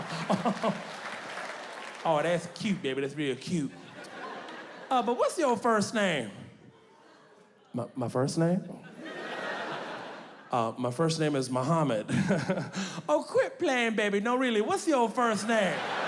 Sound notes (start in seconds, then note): 0.0 audience clapping; 3.2 audience laughing; 8.8 audience laughing; 12.5 laughs; 15.3 audience laughing